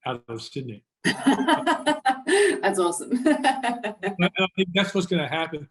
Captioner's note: laughter